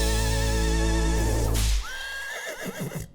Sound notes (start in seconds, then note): 1.5 whip cracking; 1.9 horse neighing